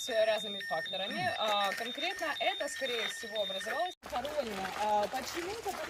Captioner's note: speaking in the Ukrainian language